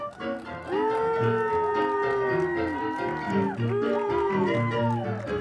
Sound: whooping hollers

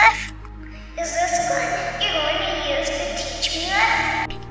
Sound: echo

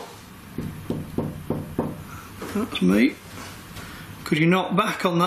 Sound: knocks on door

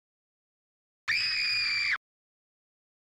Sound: four screaming like a little girl

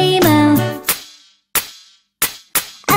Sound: clap

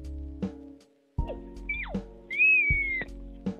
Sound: the tv simp squeaks 3 times

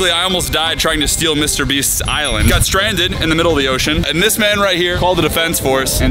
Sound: none

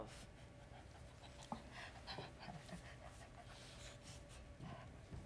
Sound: Sharik softly panting

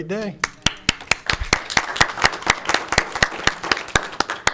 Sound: applauding

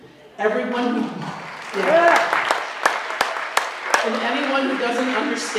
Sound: applause

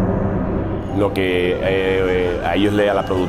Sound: speaking spanish

